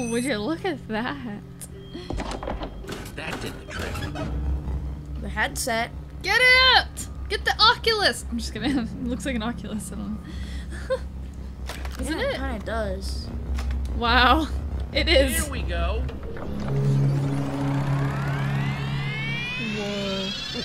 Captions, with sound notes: Well would you look at that. - The headset. Get it! Get the Oculus. - I'm just gonna have-- Looks like an Oculus though. Doesn't it? - Yeah it kinda does. - Wow, it is. (electronics loading) - Wow.